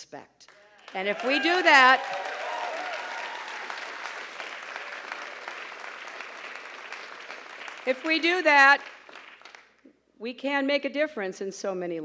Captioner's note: applause; pause, applause